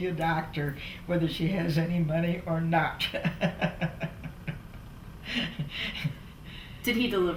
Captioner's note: laughs